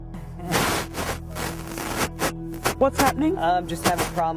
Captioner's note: light static